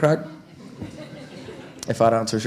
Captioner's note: audience laughing